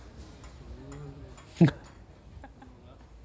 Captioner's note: chuckles